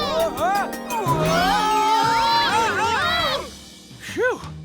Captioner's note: yelling